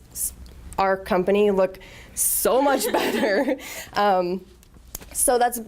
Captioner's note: laughter